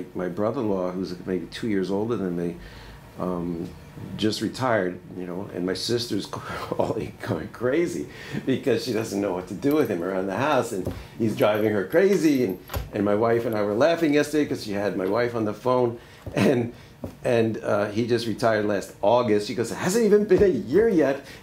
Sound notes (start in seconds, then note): 6.3 laughs